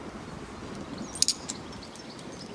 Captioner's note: metallic clinking